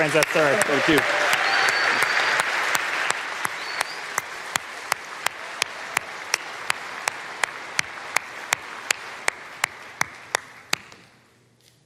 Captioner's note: applause